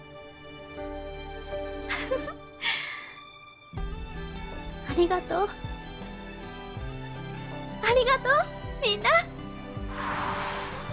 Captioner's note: chuckles